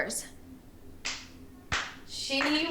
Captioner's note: Maisie clapping